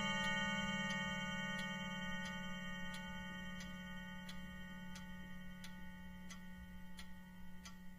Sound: clock ticks

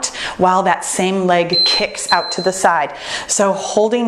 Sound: timer beeps

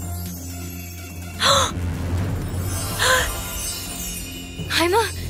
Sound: Morra gasping

